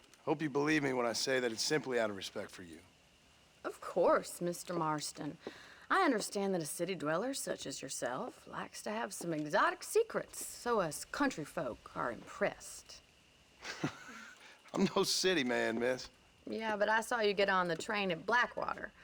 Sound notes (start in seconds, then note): 13.6 laugh